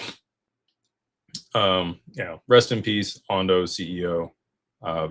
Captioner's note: snorts